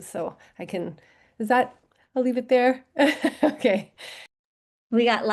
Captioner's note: laughter